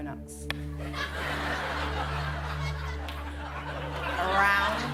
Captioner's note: laughter